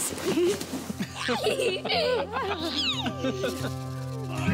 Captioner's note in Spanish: Risas